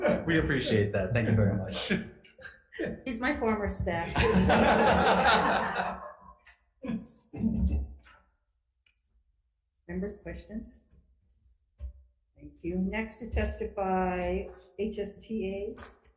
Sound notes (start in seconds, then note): 0.0 everyone laughing; 4.0 everyone laughing